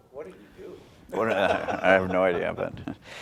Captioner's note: laughs